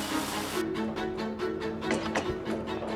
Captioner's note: hammering